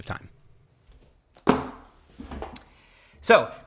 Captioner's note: journals thudding